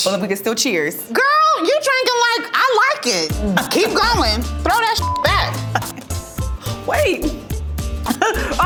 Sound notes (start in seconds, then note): 5.3 beep